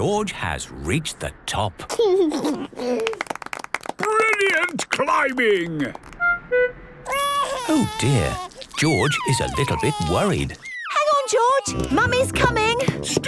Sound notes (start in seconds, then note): 2.3 George giggles; 3.0 clapping; 7.0 crying